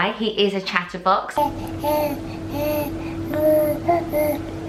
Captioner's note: baby talks